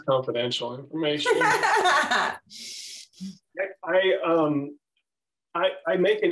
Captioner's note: laughter